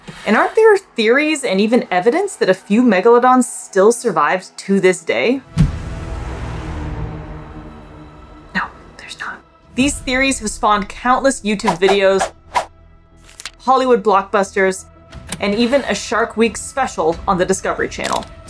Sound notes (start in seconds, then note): 5.5 threatening background music; 8.4 whispers; 12.4 background music